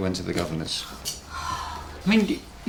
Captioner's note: sighs